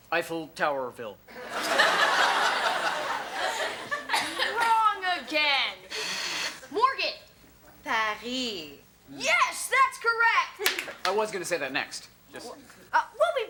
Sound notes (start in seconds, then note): 1.3 audience laughs; 5.8 Morgan hits the buzzer